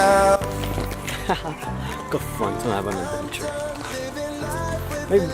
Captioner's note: laughs